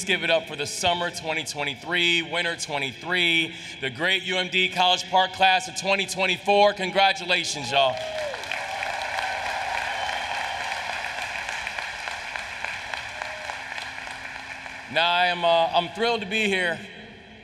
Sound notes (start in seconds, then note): 7.6 applause